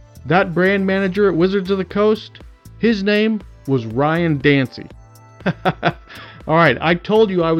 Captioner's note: laugh